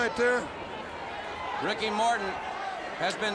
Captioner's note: crowd cheering